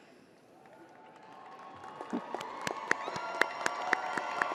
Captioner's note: crowd applauding